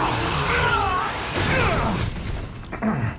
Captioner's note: grunting